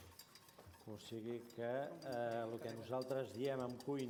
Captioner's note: non-english speech